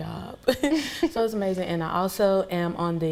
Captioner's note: laughing